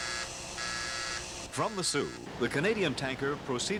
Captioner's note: buzzing